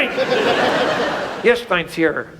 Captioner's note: audience laughs